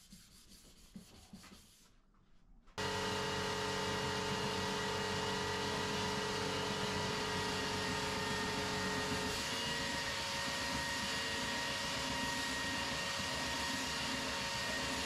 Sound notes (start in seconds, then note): 1.2 sander rasping; 3.8 sander whirring continues